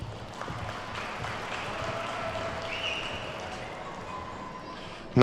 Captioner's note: attendees clapping